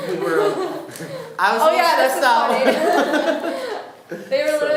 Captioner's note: laughing